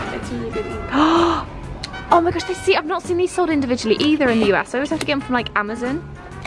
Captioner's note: gasps